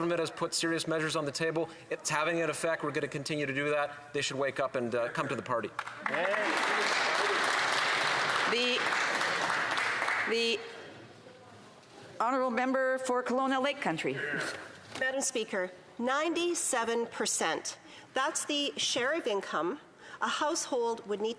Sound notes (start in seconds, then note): 10.0 some Applause